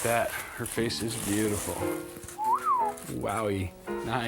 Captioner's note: whistling